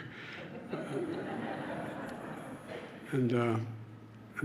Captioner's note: laughter